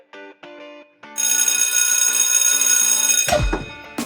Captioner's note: bell rings